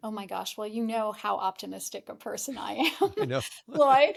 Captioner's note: laughs